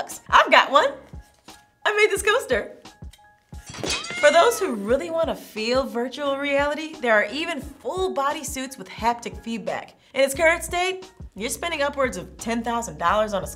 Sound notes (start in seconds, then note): 3.6 coaster falling; 3.9 cat meowing